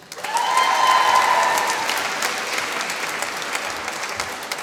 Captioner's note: applause